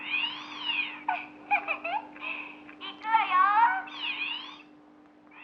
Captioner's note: laughing